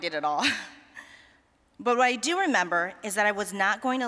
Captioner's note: chuckling